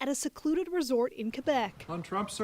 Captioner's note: speaking French